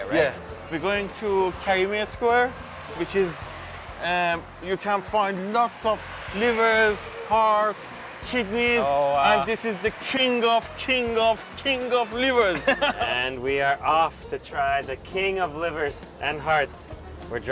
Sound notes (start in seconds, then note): 12.5 laughs